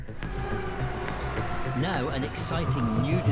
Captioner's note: truck engine whirring